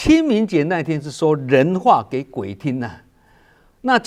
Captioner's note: using human language